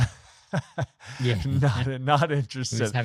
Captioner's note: laughing